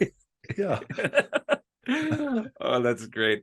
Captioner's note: laughter